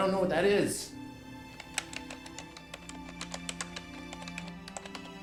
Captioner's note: keypad beeping